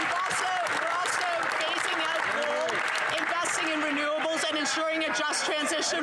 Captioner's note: some Applause